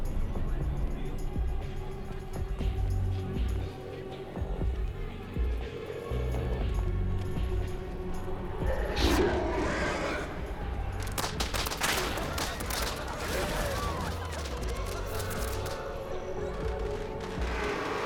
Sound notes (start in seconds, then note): 11.0 popping; 12.4 people laughing